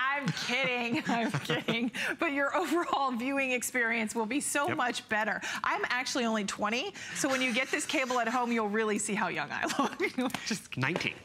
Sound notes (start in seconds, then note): 7.2 laughter